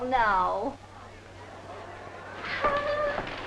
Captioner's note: group chattering